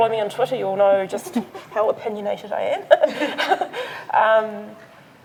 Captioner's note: laughs